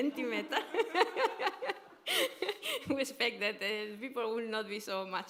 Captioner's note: laughter